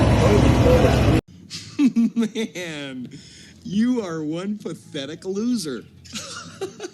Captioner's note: laughing